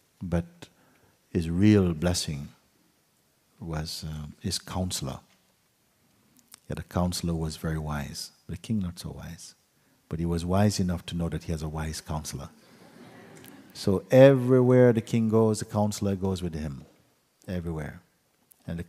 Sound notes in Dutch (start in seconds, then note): 12.8 gelach